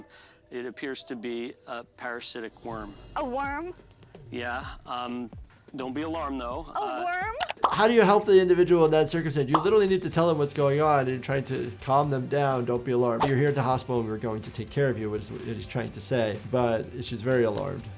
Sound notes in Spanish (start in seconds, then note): 6.9 clic del mouse; 7.4 burbuja estallando